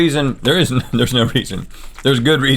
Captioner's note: chuckles